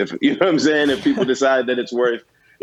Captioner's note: laughter